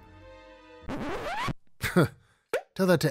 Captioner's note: record scratching